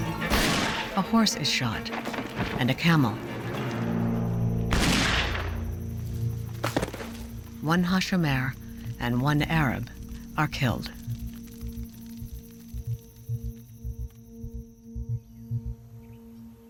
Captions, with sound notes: [Gunshot] A horse is shot and a camel. [Gunshot] [Thud] One Hashomer and one Arab are killed.